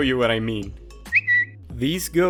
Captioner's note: Twitter notification SFX